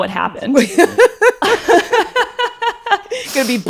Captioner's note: laugh